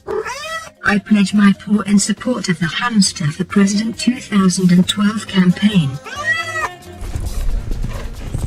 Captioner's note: meow